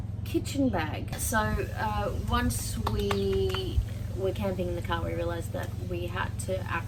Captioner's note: slaps knees rhythmically